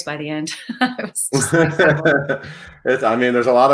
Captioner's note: both laugh